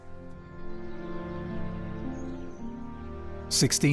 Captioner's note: birds tweet